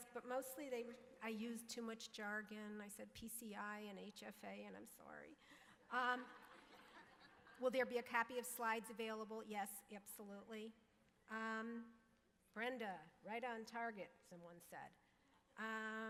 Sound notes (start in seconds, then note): 6.1 audience laughing